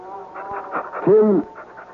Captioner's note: baby crying